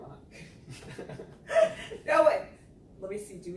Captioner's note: laughing